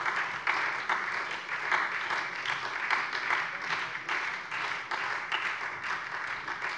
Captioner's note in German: Beifall SPD